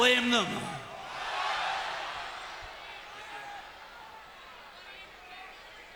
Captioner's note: crowd murmuring